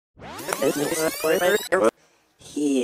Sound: rewinds

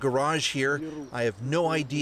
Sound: speaking Alternate Language

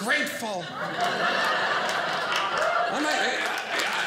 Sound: audience laughing

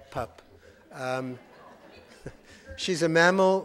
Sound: audience laughing

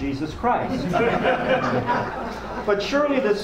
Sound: audience laughs

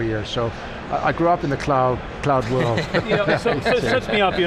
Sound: laughing

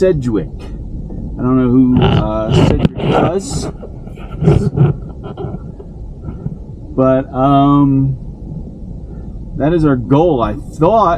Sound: truck shocks bouncing

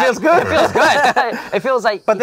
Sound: laughs

